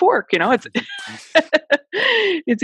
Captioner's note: laughs